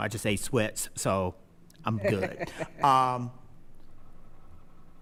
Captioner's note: laughing